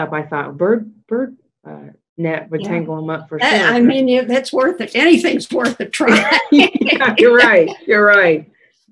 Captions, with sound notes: I THOUGHT BIRD NET WOULD TANGLE THEM UP FOR SURE. - YEAH, I MEAN, THAT'S WORTH IT. ANYTHING'S WORTH A TRY. (LAUGHING) - YOU'RE RIGHT, YOU'RE RIGHT.